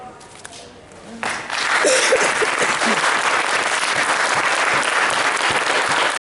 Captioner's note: applause